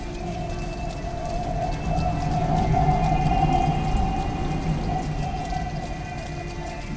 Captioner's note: train rumbling